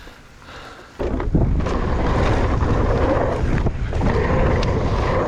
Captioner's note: bike engine roaring